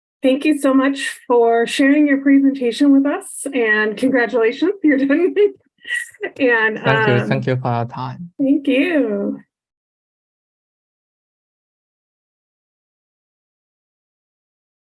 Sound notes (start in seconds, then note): 6.7 laughing